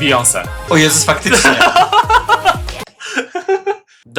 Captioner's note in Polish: śmiech